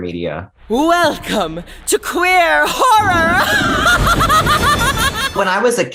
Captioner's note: laughs